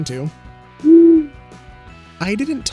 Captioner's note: owl hoots